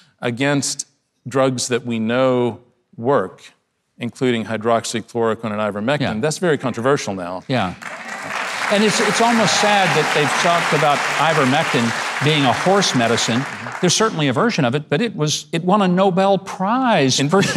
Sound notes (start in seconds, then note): 7.5 audience applauding; 17.3 laughs